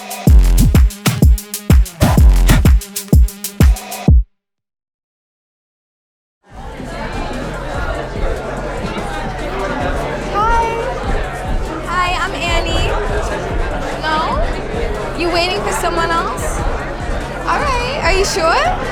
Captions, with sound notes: (patrons chattering) - "Hi!" "Hi, I'm Ani." "No? You're waiting for someone else?" "All right. Are you sure?"